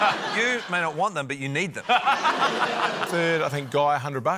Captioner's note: laughter